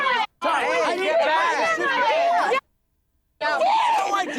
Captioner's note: screaming